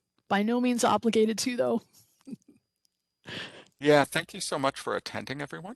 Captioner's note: laugh